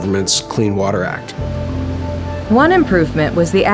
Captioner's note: water rushes